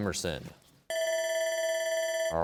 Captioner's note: bell ringing